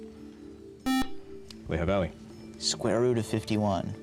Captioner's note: buzzer